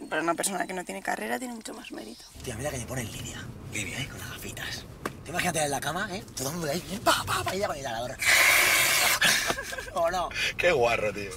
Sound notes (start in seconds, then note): 8.5 breathes in heavily